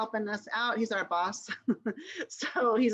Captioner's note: laughter